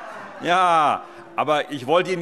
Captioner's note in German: Heiterkeit